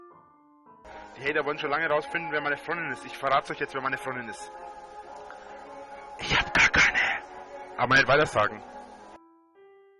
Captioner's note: whispers